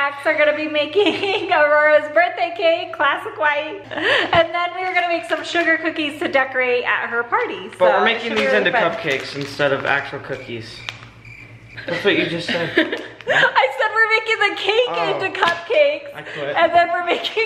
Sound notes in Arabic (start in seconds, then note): 11.2 صراصير الليل تزقزق; 12.4 ضحكة مكتومة للفتيات